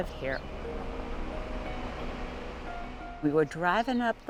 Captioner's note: engine rumbling